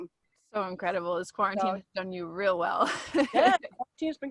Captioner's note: laughs